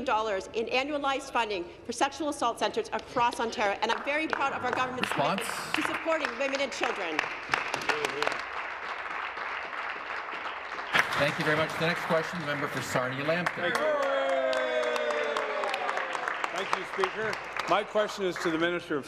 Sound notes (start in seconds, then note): 11.9 applause